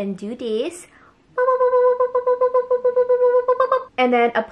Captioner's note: repeated booping